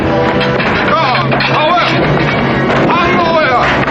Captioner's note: men speaking native language